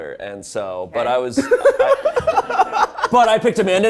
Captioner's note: laughs